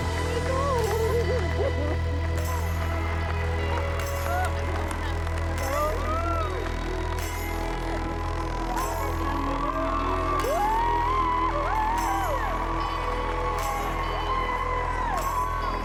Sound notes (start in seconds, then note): 5.9 cheering continues; 10.1 all cheer, applaud